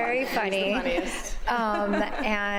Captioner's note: laughter